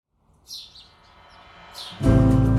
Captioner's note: birds chirping